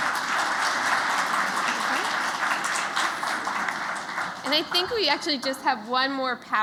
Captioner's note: applause